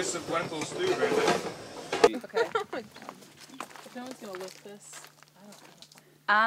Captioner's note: laughs